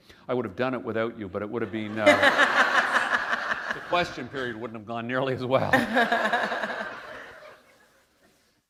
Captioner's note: laughter